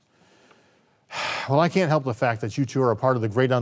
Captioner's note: exhales